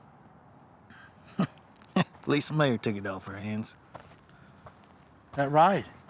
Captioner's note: laughing